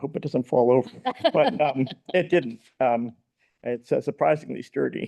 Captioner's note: people laughing